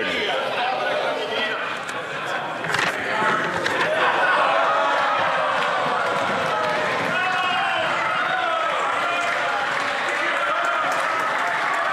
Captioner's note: some Applause